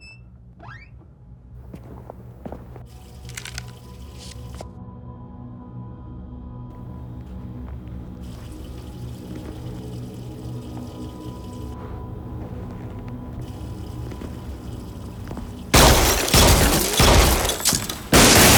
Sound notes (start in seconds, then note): 0.6 door creaking; 8.2 water facet running; 15.2 gunshots booming